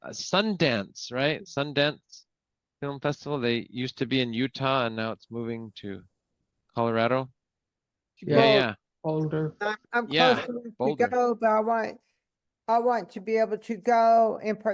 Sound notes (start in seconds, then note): 8.2 multiple responses